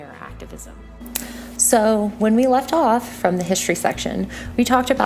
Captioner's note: white noise change